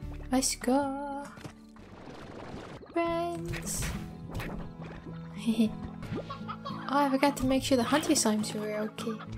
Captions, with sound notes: Let's goo Friends! (giggle) Oh, I forgot to make sure the hunter slimes were okay